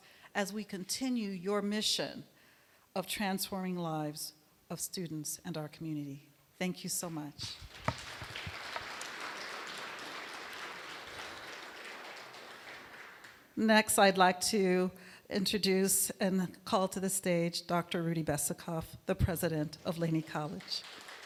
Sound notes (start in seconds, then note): 7.4 applause; 19.9 applause